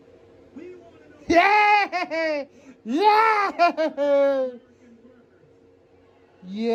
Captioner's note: evil laughter